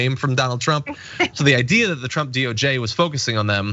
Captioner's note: laugh